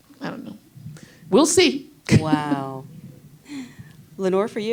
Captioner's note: chuckles